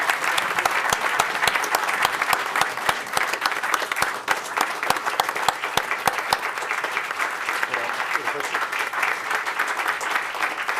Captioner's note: applause